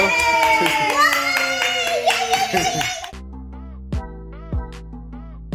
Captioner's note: claps